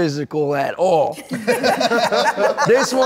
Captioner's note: everyone laughs